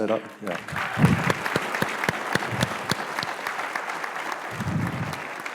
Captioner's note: applause